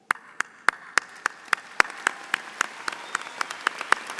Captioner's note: audience applauding